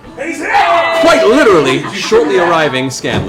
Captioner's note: cheering